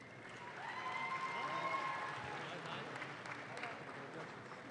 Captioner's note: audience claps